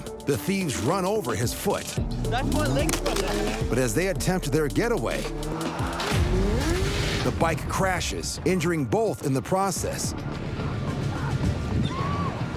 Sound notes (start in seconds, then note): 5.1 motorcycle bangs